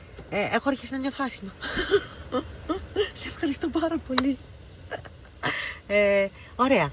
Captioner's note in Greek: γέλια